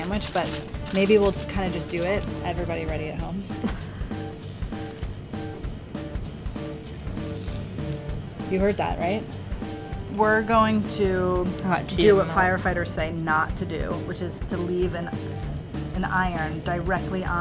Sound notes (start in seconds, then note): 4.4 crunching